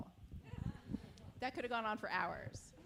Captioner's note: audience chuckles